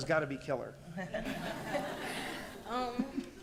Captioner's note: laughter